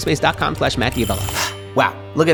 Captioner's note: alarm ringing